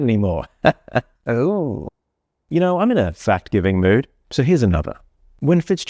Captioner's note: awkward laugh